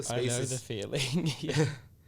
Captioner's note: laughs